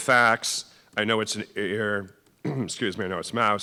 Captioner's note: clears throat